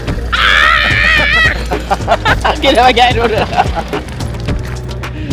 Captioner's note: laugh